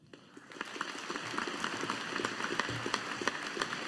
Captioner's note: audience applauding